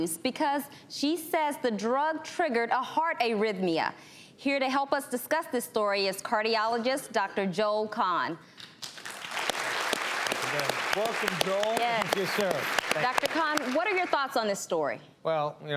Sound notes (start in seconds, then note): 8.8 audience applauds